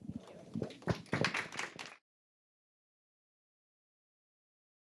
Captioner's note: audience applauds